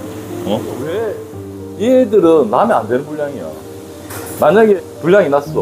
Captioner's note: excessive welding